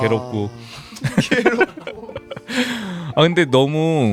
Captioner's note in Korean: 웃음